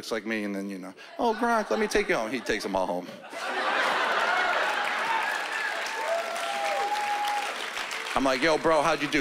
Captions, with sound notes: He looks like me, and then, you know... "Oh, Gronk, let me take you home." He takes 'em all home. (laughter) (applause) I'm, like, "Yo, bro, how'd you do?"